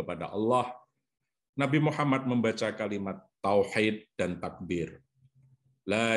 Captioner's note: speaks Arabic